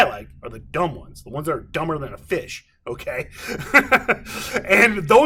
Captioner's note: laughing